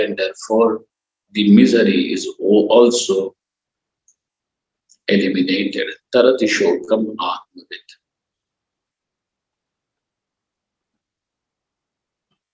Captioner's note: sanskrit